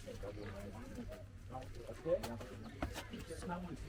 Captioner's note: people chattering